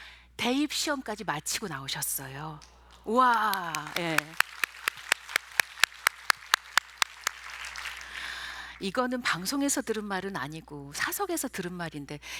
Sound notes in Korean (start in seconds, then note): 2.9 관객의 박수소리